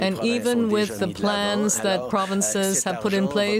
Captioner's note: speaking French